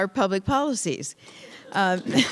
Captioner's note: applause